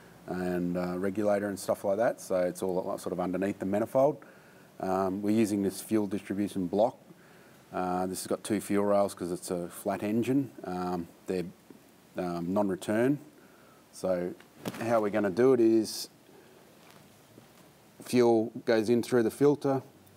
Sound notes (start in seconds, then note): none